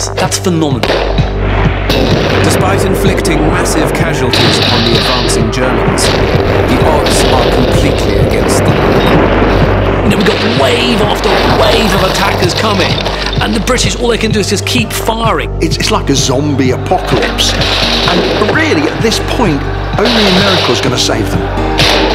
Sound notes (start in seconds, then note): 1.3 suspenseful music; 6.0 explosion booms; 17.1 guns roaring; 17.7 men shouting